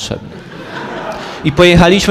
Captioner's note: laugh